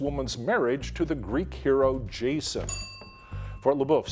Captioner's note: bell dinging